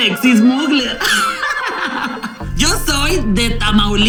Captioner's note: evil giggle